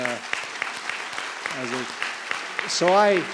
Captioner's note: applause